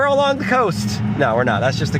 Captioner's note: car revving